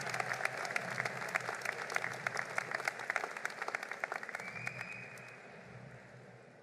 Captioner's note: applause